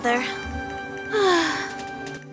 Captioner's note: sighs